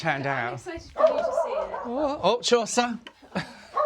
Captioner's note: dog barking